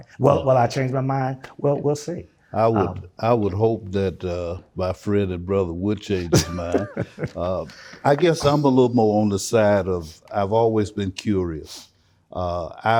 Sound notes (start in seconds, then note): 6.2 laughing